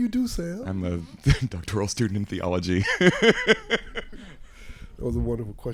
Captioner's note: laugh